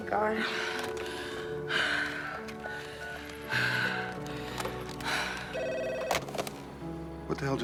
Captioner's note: sigh